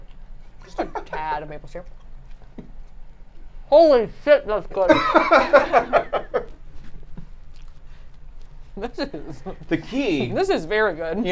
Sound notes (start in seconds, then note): 4.8 laughing